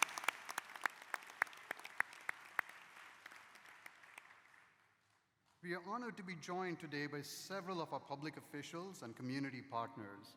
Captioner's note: applause